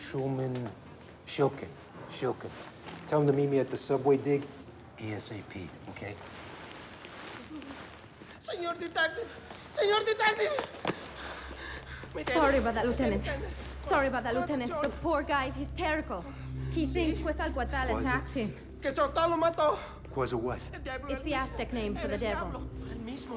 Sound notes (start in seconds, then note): 17.3 speaks foreign language; 19.1 man speaks foreign language; 23.1 man speaks foreign language